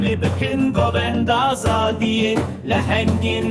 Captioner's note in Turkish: Ayakları yere vuruyor